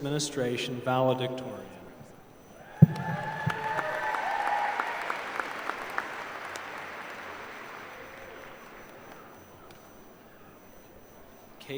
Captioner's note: applause